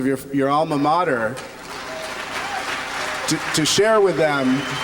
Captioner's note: applause